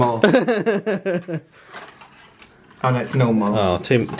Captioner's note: laughs